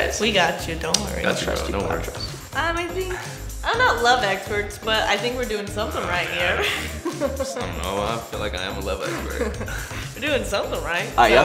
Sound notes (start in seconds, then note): 6.3 laughs